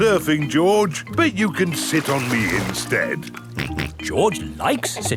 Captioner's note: snorts